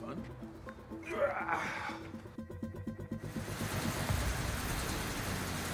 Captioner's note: Undertaker groans